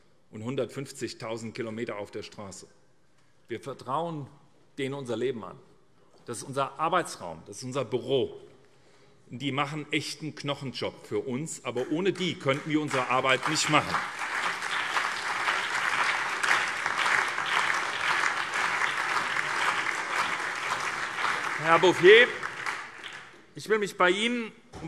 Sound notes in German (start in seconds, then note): 14.3 Beifall SPD, CDU, BÜNDNIS 90/DIE GRÜNEN, Freie Demokraten und DIE LINKE